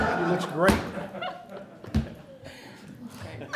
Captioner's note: laughter